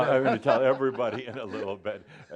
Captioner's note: they laugh